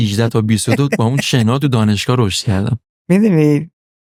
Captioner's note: laughs